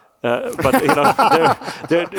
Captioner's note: panelists laugh